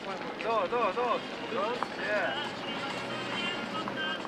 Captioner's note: Spanish language